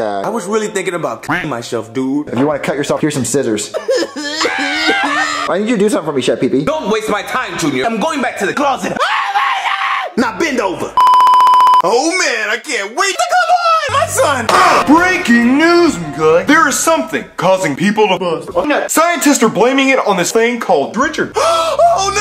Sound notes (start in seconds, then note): 3.8 Joseph cries; 4.2 Junior yells; 8.8 Junior yells